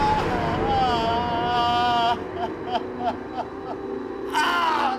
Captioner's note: groaning, crying